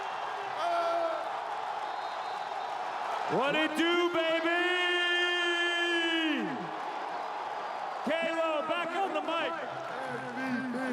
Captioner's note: cheering and Applause